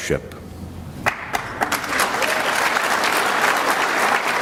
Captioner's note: clapping